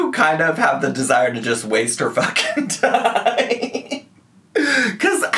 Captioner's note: laughs